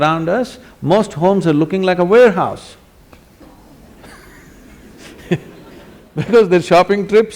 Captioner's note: laughter